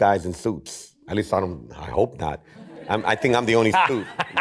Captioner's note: laughter